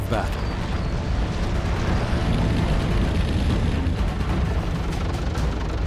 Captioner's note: tank engines roaring